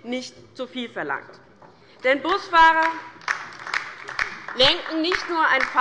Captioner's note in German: Beifall bei der LINKEN